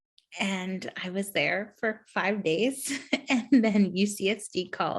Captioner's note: chuckles